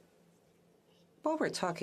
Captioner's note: speaking French